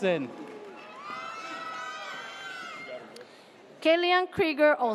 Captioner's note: audience cheers